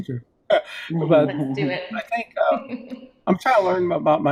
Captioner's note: laughs